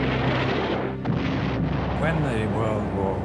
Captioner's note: booming